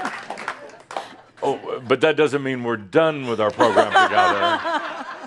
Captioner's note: laughter